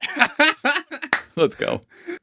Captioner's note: laughing